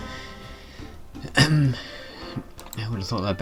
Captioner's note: ahem